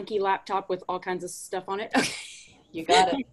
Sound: laughs

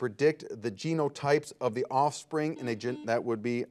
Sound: buzzer buzzes

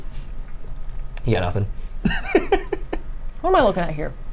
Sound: laughs

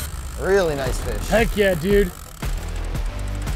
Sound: reel whirring

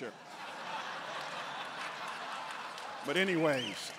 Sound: congregants laughing

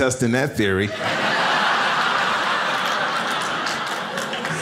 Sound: audience laughs

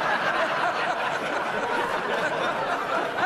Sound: laughter

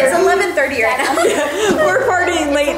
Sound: both laugh

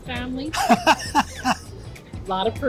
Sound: laughs

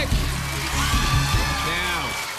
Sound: cheers and applause

